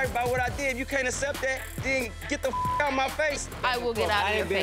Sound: beep

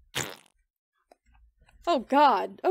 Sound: fart Noise

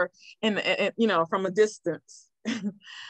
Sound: chuckles

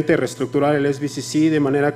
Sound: speaking foreign language

